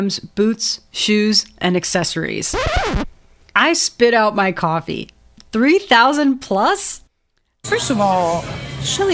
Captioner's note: record scratch